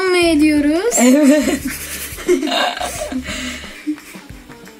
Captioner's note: laughs